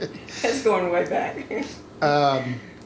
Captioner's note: laughing